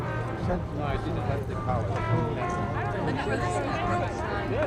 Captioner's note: indistinct chatter